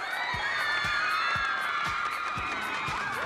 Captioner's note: cheers and applause